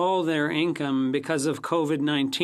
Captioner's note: speaking FRENCH